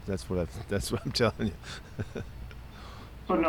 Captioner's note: Pete laughs